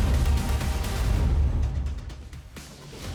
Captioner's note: cheers and applause